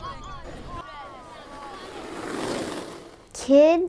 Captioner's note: skateboard whizzes